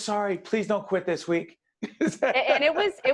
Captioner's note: laughing